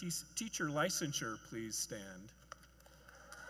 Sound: cheers and Applause

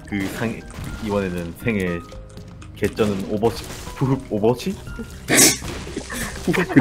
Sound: laugh

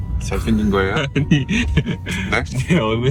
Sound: hahahahaha

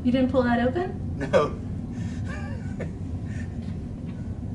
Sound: laughs

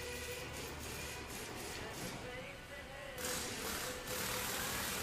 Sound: machines buzzing

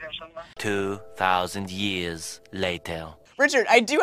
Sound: voiceover

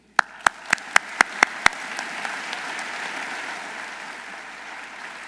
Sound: audience applauding

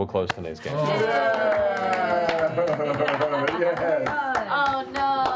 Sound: cheering

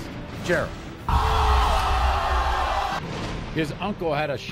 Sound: audience gasps

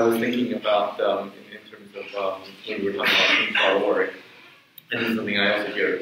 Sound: speaks away from mic

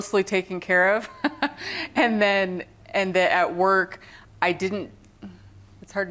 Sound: laughter

